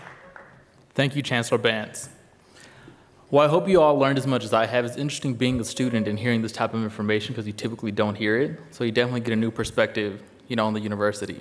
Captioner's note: applause